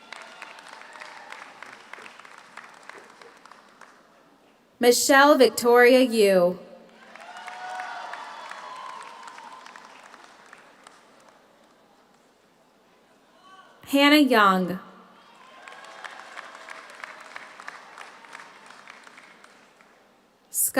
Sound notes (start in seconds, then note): 0.0 audience cheers; 0.0 audience applauds; 6.8 audience applauds; 6.9 audience cheers; 15.2 audience cheers; 15.3 audience applauds